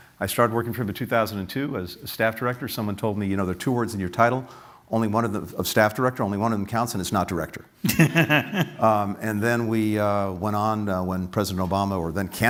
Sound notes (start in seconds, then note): 7.8 laughter